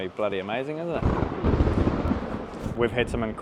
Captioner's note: thunder cracking